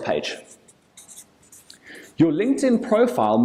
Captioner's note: marker screeching